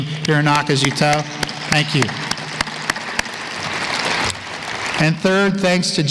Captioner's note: applause